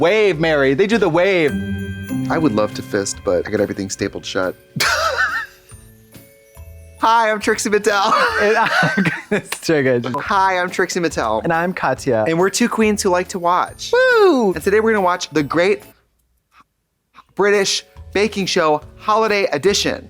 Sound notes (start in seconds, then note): 1.1 festive chime; 4.8 Katya snickers